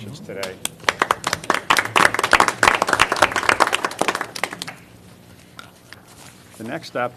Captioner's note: applause